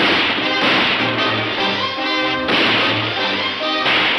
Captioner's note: guns firing